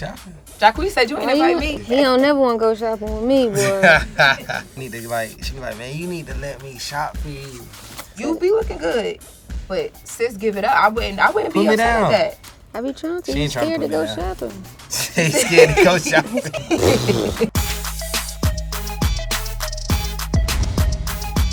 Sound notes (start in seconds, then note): 3.5 laughter; 14.9 laughter